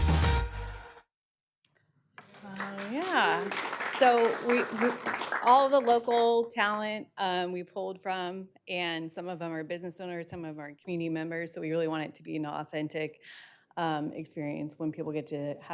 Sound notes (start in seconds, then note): 5.3 applause